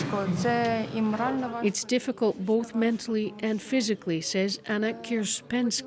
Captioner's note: speaking alternate language